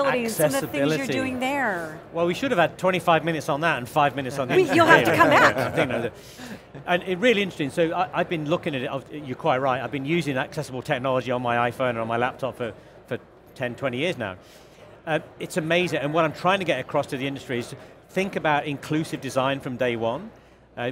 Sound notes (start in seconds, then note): 4.5 all laugh